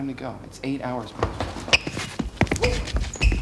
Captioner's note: shoes squeaking; footsteps shuffling